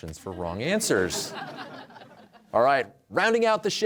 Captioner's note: audience laughs